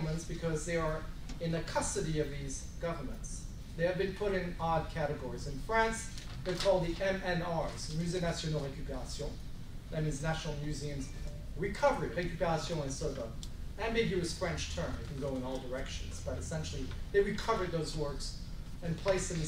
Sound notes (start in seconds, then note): 8.4 speaking french